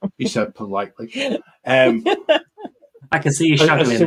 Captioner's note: laughing